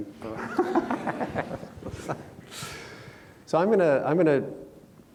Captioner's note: everyone laughs